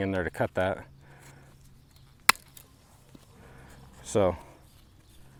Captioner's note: wire snapping